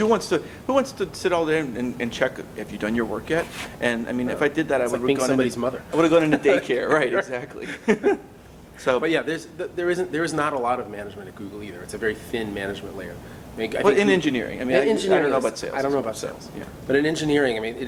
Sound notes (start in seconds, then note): 7.5 laughs